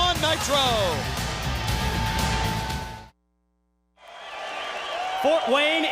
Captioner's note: crowd cheering